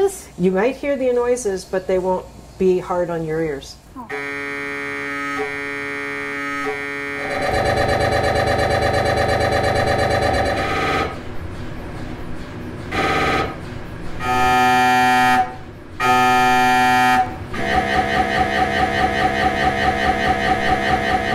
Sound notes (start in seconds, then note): 4.0 MRI machine buzzing